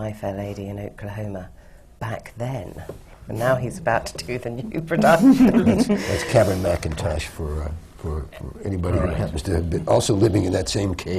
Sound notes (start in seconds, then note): 5.0 laughs